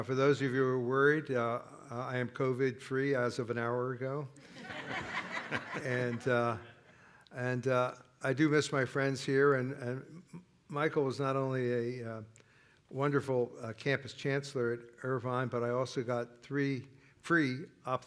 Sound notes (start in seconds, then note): 4.4 laughter